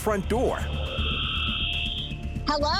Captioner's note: whirring